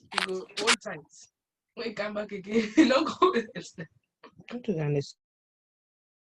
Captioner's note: foreign Language